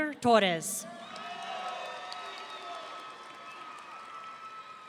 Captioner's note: audience cheering